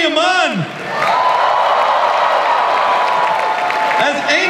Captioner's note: audience cheers